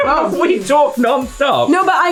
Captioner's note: laughing